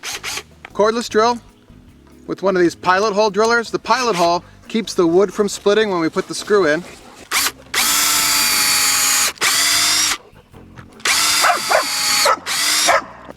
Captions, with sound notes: (electric drill whirring) Cordless drill, with one of these pilot hole drillers. The pilot hole keeps the wood from splitting when we put the screw in. (electric drill whirring) (dog barking)